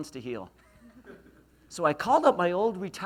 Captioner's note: laughs